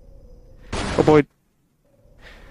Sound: loud explosion x2; sighs

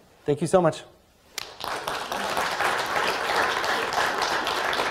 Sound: applause

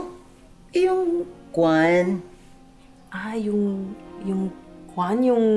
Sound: Criselda and Maricel speak Tagalog

